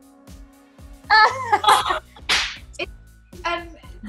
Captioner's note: laughing